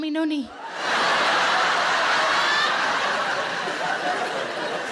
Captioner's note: audience laughing